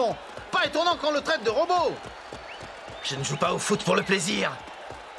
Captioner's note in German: beifall